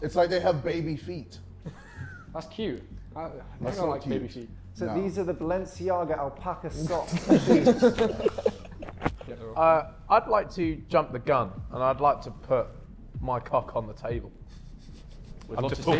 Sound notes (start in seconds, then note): 6.8 Sidemen laughing; 14.8 Joshua chuckling